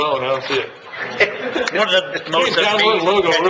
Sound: laughing

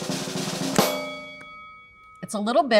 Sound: drum roll; bell dings

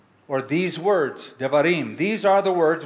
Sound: hebrew

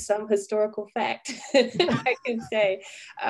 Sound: laughing

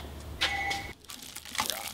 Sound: plastic rustles

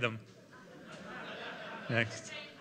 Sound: laughter

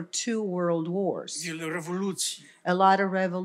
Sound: foreign language

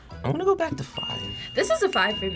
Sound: bell dinging

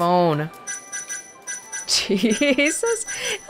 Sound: chuckles

